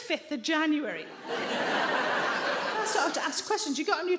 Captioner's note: audience laughing